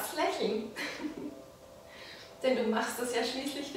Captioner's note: giggle